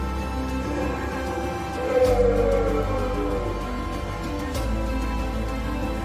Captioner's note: Bigfoot growling; dramatic music continues